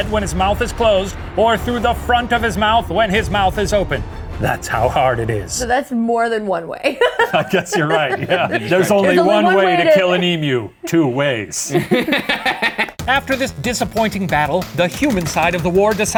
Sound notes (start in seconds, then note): 6.8 laughs; 11.6 laughs